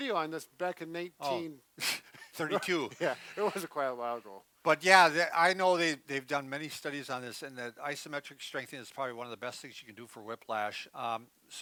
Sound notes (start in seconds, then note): 2.2 both giggling